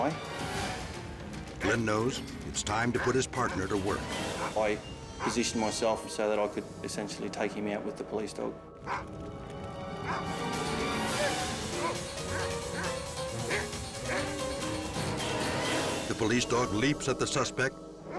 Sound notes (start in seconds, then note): 10.0 dog barks; 10.8 dramatic music